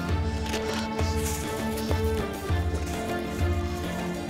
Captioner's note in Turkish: Ambulans sireni